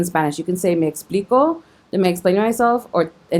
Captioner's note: speaking foreign language